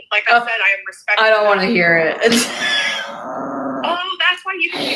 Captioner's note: laughs